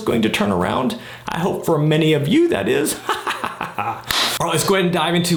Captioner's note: evil laughing